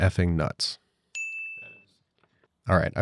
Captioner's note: bell dings